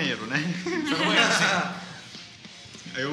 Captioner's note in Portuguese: risadas